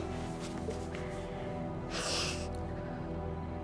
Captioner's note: sniffles